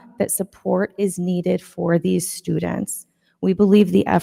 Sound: none

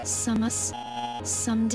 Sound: buzzing sound

